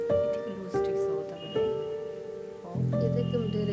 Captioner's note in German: Nachdenkliche Musik; Sie sprechen eine fremde Sprache